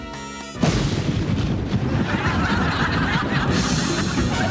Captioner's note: thunder crashes; audience laughing